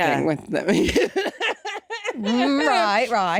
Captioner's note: laughing